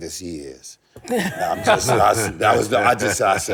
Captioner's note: laughter